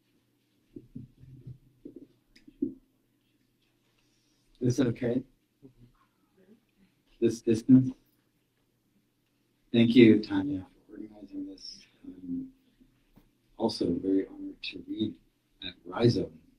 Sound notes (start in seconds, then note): none